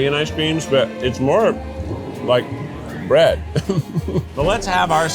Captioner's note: laughs